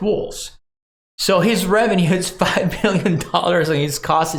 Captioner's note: laughs